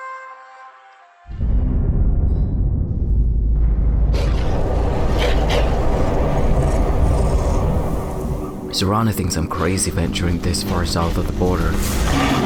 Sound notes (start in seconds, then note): 1.3 deep cinematic rumble; 4.0 fierce winds blowing; 5.1 wolf barking